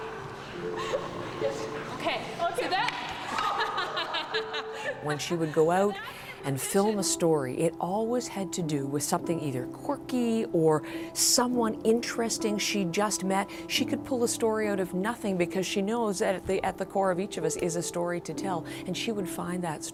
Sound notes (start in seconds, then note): 3.2 laughter